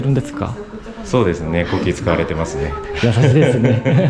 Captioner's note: laughs